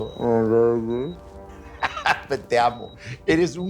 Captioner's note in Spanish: Risas